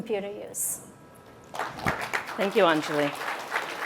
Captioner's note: applause